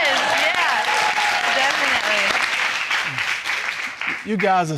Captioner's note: all cheering